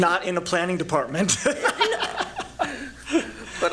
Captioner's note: chuckles